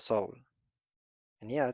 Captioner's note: pause